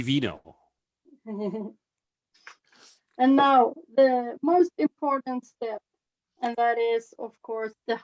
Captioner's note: chuckles